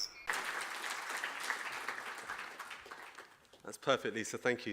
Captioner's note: audience applauding